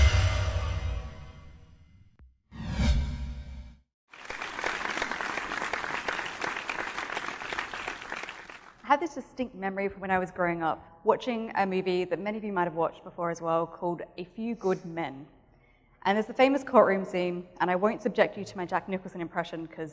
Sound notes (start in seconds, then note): 4.1 applause